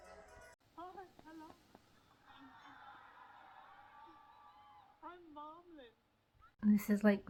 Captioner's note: muffled, cheers